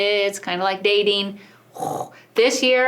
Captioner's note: verbal sound effect